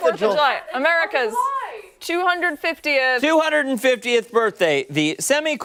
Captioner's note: laughter